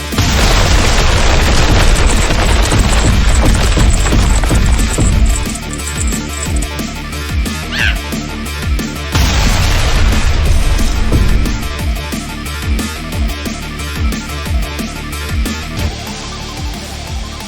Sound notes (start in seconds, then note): 0.1 explosion booming; 7.7 woman grunting; 13.1 tense music continues